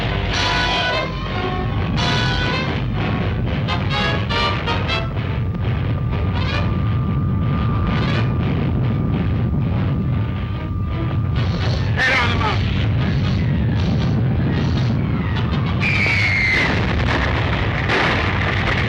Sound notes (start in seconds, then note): 1.9 mountain rumbles; 15.7 missile screams